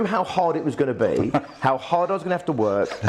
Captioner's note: laughs